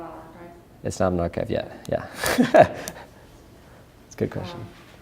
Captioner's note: laughs